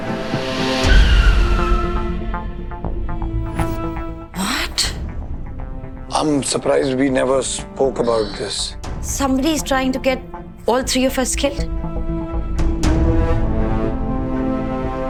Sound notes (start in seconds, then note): 0.5 tyres screeching; 12.5 tense music